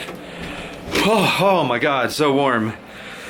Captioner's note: sigh